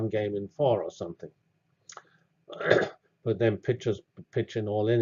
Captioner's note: cough